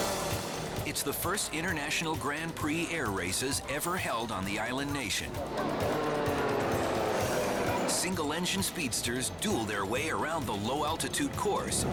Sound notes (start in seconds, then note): 0.0 engine roars; 5.9 engines roar